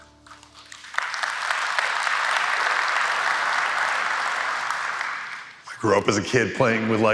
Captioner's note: applause